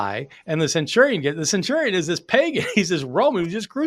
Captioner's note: chuckling